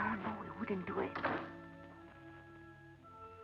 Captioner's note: door thuds